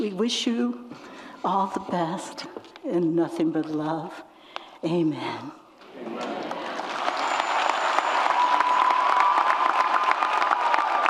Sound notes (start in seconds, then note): 5.8 audience applauds